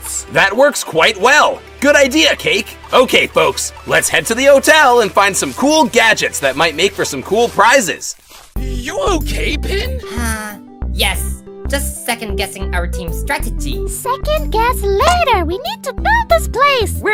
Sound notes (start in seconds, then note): 9.6 sigh